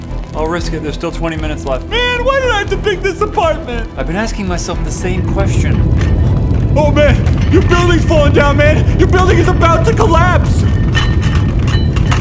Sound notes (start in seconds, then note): 5.7 rumbling; 10.7 rumbling and clanging